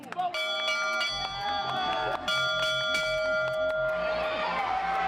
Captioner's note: players Ringing Bell; fans Cheering